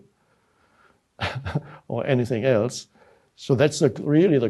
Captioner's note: chuckles